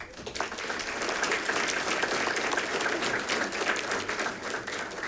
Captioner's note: audience applauding